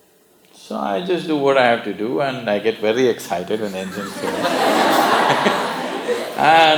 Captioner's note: laughter